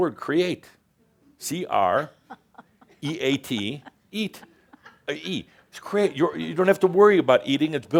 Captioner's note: is chuckling